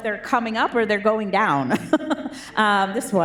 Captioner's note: laughs